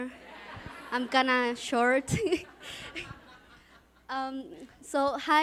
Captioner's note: she and audience laugh